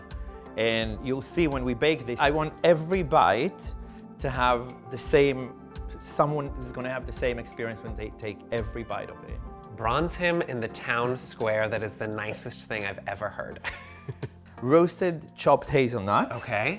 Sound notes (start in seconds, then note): 13.6 chuckles